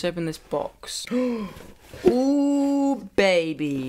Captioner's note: gasps